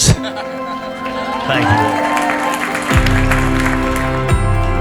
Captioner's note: cheering; soft music